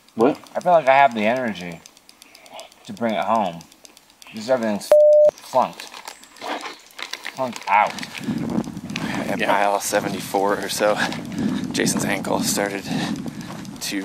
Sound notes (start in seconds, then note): 4.9 beep